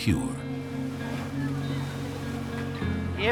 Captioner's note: people talking in background